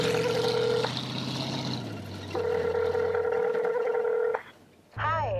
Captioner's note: phone dial tone